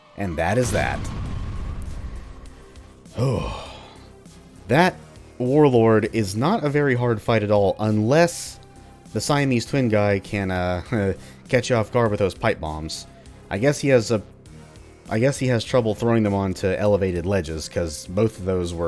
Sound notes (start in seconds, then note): 3.0 sigh of relief